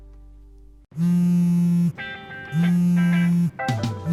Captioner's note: phone buzzing